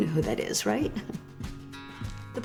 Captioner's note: chuckling